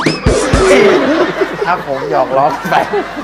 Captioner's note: laughing